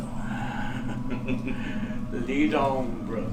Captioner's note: evil giggle